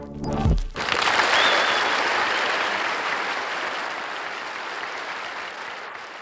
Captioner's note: applause